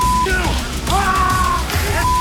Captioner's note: yelling